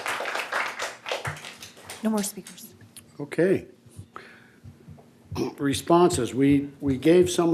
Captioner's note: applause